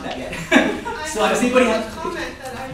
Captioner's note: laughter